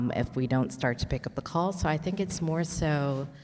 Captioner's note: none